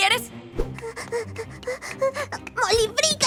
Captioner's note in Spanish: Molly jadeando